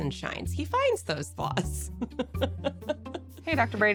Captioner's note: chuckles